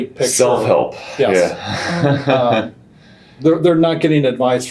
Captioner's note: laughing